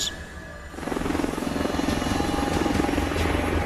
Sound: helicopter whirring

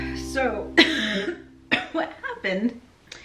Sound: coughing

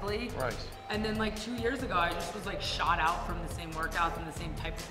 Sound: none

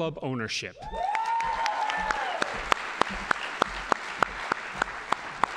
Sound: audience applauding

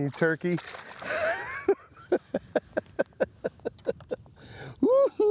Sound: laughs

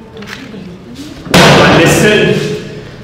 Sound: slams table

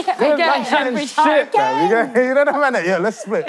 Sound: laughing

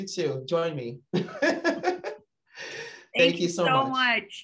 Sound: laughs

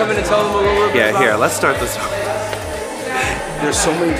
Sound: laughs

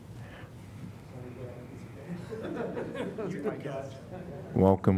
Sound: laughter

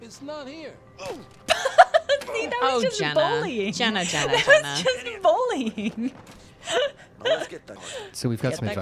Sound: laughter

